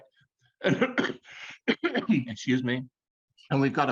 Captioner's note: clears throat